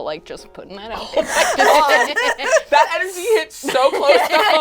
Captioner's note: all laugh